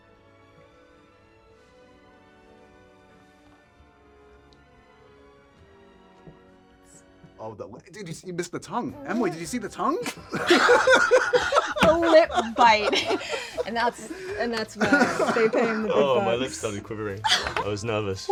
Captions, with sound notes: Oh the– Did, you– You missed the tongue. Emily, did you see the tongue? (LAUGHING) The lip bite. And that’s– And that's why they pay him the big bucks. My lips started quivering. I was nervous.